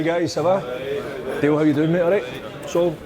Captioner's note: men speaking foreign language